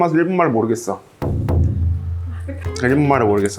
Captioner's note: confident